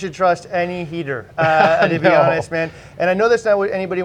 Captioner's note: laughs